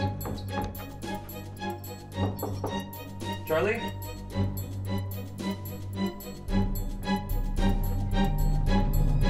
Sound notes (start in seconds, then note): 2.2 knuckles tapping